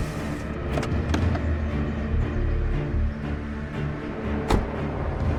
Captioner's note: engine humming; quiet, menacing music; door clatters